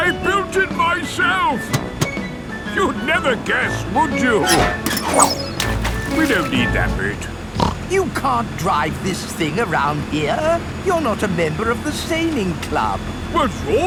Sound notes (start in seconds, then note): 4.6 splashes; 7.5 snorts